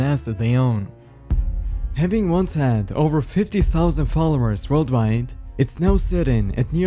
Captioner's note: deep thud